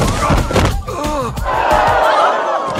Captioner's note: bull snorts; crowd gasps